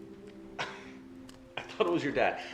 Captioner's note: Paul laughing